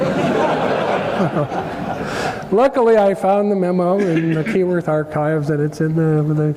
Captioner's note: laugh